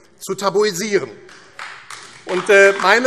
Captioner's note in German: Beifall AfD